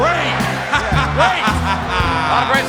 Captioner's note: laughs